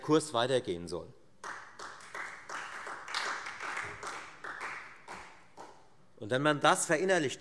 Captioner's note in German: Beifall Freie Demokraten